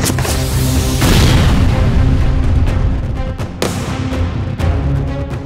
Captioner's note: gunshots firing